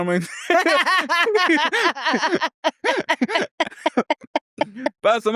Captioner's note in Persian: خنده